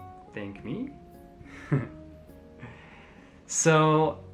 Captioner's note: chuckles